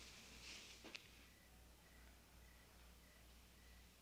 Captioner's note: crickets chirping